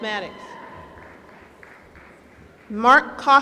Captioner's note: applause